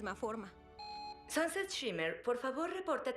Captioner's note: intercom beeps